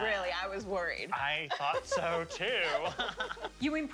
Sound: laughter

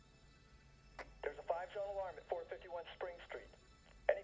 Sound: CB radio

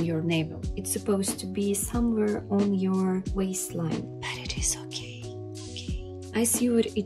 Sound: asmr wispering

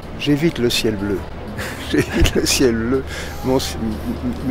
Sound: laughs

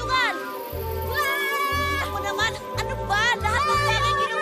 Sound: screaming

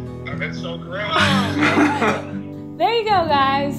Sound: laughter

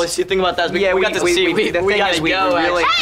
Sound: overlapping chatter

